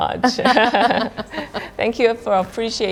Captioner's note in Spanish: Risas